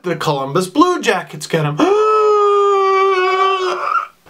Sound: gasps; coughs

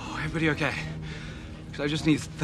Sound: sighing

